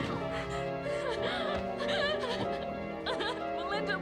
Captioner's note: sobbing